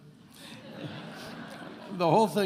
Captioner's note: attendees laughing